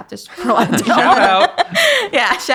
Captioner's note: everyone laughing